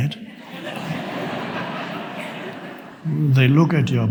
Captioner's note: audience laughs